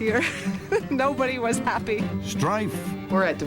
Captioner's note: chuckling